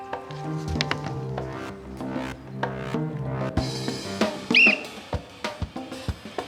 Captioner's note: blows whistle